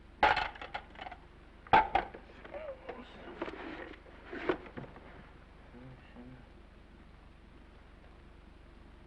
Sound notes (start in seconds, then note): 0.2 receiver clattering; 2.4 groans